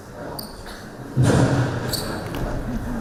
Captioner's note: boom